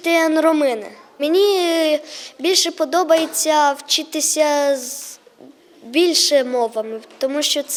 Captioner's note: <i>Ukrainian</i>